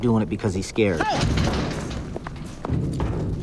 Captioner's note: gate rattles